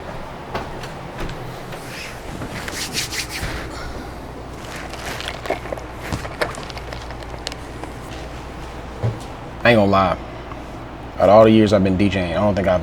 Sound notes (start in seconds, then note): 1.2 footsteps